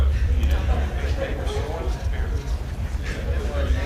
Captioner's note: chattering